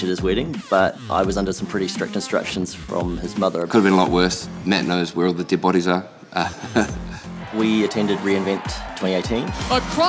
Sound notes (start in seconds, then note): 6.3 laughs